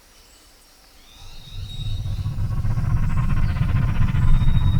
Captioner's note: aircraft whirring